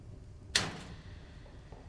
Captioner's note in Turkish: Kapı açılır